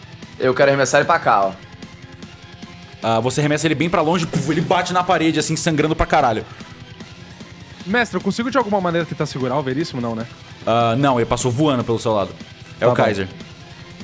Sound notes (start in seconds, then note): 4.3 boom